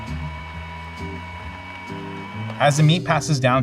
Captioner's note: grinders roar; jazz music continues